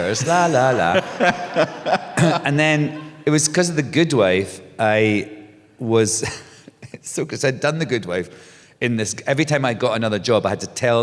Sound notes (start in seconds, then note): 5.3 laughs